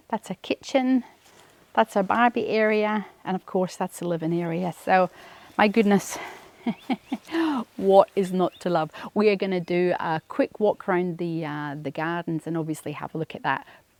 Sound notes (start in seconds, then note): 6.0 laughs